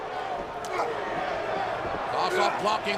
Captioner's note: Vladimir grunting